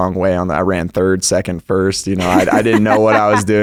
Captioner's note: laughs